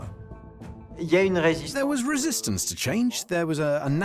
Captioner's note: voiceover